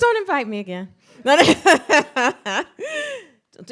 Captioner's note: laughs